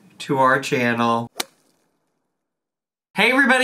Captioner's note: whip cracks